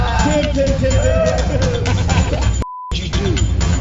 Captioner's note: laughing